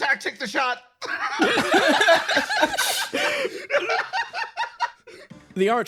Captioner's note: everyone Laughs